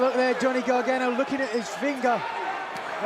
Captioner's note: crowd cheering